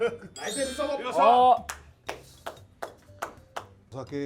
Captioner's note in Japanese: 拍手